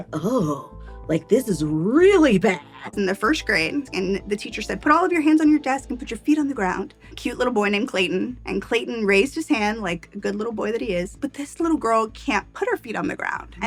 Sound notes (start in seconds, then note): none